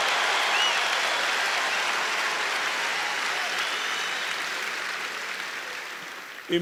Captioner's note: applause